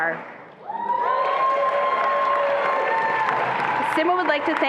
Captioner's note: attendees applauding and cheering